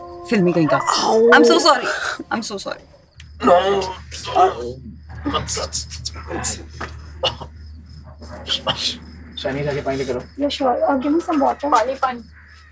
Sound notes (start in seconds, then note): 0.8 Adhish grunts; 3.4 Roy shrieks; 8.5 Groans